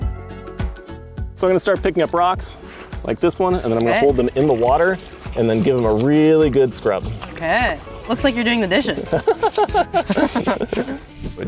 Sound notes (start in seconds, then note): 8.9 laughs; 9.1 laughing